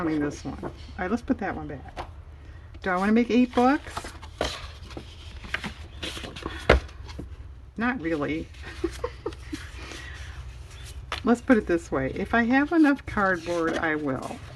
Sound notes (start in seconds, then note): 8.6 laughs